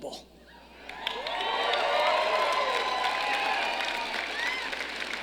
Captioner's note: audience cheering